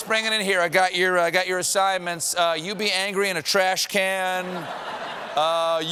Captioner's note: laughter